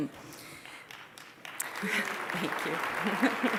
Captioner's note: applause; chuckling